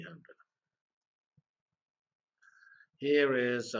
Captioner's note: pause